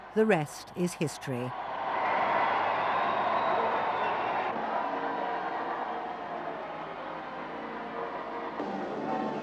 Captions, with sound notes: The rest is history. (crowd cheering)